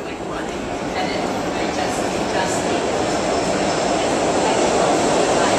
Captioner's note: sound of train moving across tracks